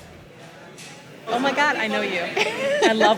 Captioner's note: laughs